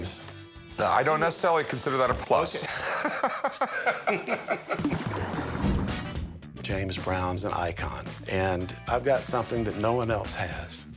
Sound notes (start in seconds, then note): 2.5 laughs